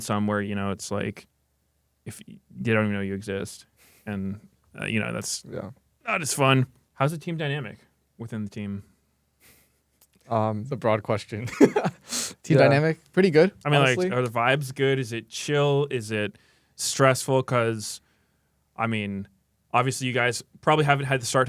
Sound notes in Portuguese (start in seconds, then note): 11.4 risos